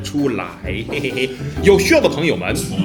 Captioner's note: laugh